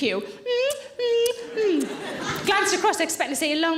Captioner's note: lips smacking